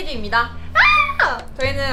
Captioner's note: squealing